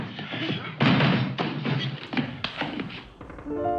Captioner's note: objects clattering